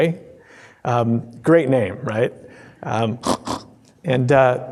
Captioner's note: snorting